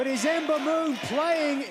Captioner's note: crowd cheering